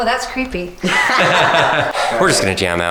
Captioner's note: laughing